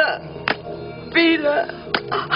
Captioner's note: smack